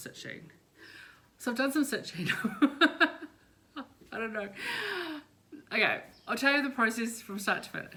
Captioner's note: laughs